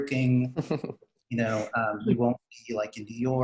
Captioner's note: giggling